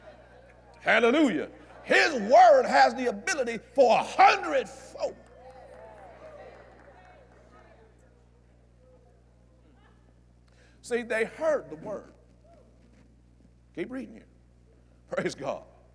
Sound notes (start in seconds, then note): 6.1 agreement & Applause